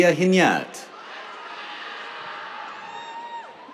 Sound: cheers

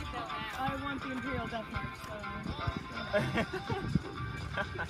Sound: laughter

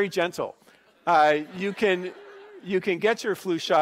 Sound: laughing

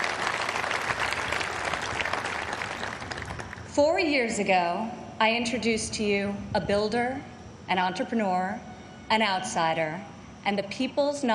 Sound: applause

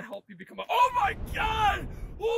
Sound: Richard Yells

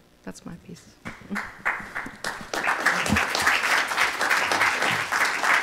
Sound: audience applauding

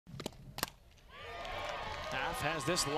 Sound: crowd Cheering

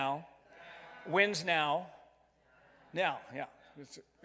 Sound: crowd; crowd mumbling

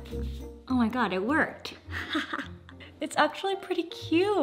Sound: playful music continues; laughs

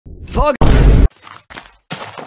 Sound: Vine boom sound

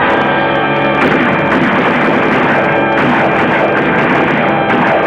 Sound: guns firing

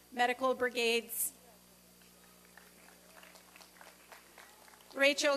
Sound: applause and cheering

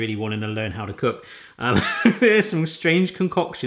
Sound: laughs

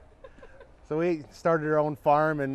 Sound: chuckles

